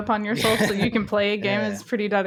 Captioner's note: laughs